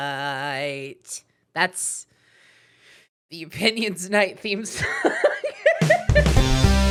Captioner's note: laughing